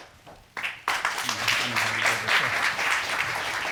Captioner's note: audience applauding